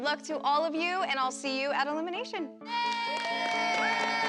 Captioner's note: cheering